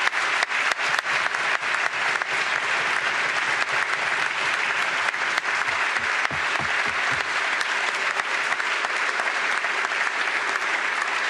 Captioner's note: applause